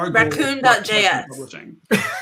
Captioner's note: laughs